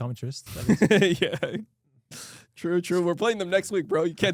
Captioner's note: laughs